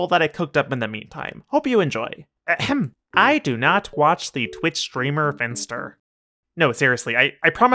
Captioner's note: ahem